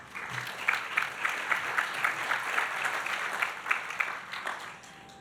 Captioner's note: audience applauding